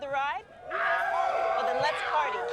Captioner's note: fans shout